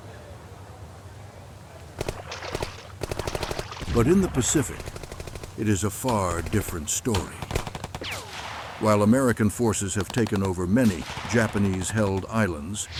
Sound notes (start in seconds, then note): 2.0 machine gun fire; 2.0 water splashing